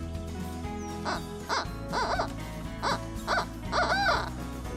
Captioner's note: turkey call yelps